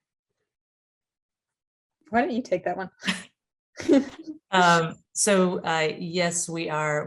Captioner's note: laughter